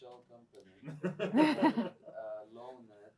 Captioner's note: laughter